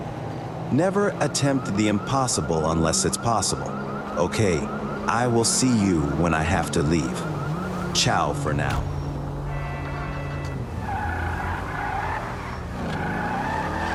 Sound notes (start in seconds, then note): 8.6 car door and engine sound